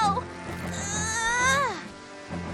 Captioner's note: grunting